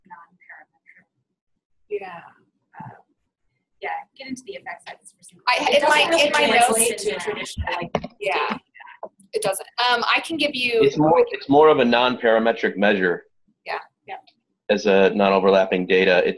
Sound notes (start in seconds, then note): 0.2 voiceover; 9.4 voiceover; 11.1 voiceover